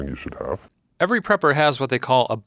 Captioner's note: voiceover